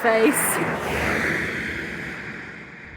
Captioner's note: traffic noise